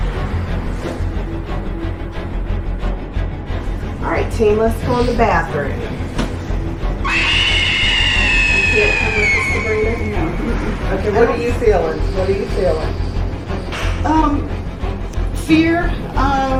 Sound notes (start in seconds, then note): 0.2 upbeat haunting music; 6.9 shrill screaming